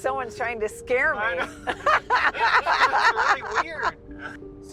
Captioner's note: laughing